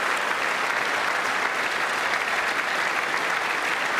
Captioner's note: applause